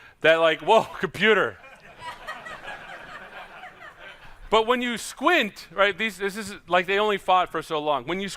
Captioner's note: laughter